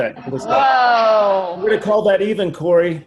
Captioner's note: laughs